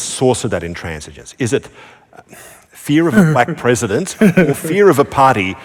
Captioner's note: sigh